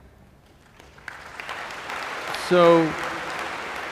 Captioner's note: applause